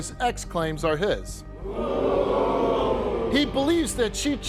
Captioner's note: audience jeering